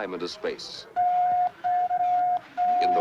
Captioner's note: beeping